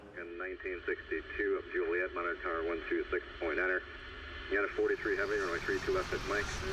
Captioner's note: pilot speaking over radio